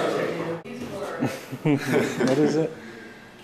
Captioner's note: laughing